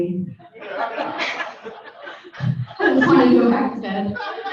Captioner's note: audience laughing